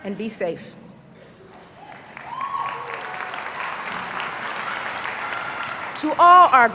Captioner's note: applause